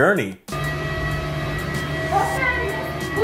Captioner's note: aeroplane whirs; flight attendant speaks in a foreign language